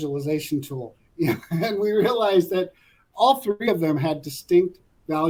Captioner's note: laugh